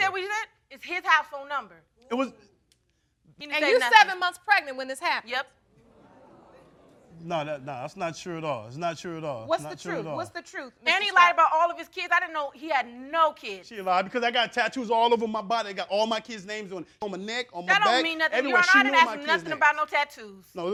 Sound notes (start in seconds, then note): 5.5 crowd discussing